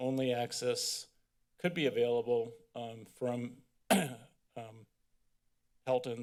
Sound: clear throat

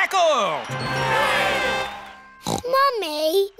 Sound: crowd cheering

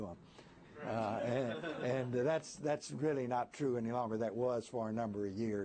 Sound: laughter

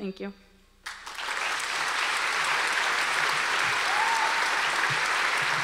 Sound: audience applause

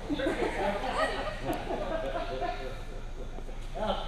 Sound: laughter

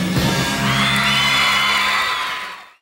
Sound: audience cheers

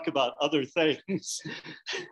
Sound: laughs

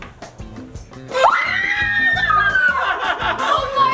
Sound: screams

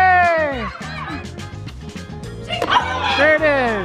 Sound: group yells

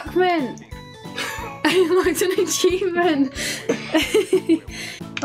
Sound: laughs

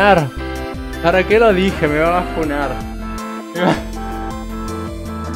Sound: laughs

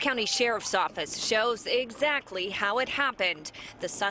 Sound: sirens

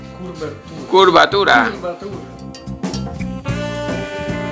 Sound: Spanish

